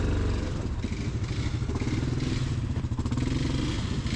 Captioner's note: rancher revs loudly